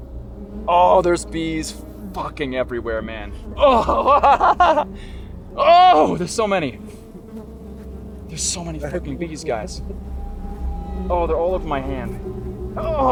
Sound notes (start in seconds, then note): 3.0 laughs